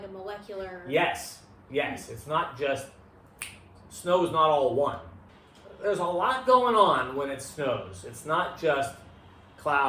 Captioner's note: snap